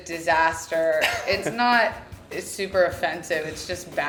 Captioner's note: laughing